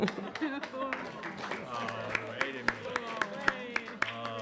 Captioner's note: audience applauds